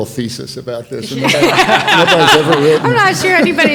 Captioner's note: panelists laughing